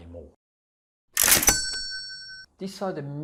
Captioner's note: cash register sounds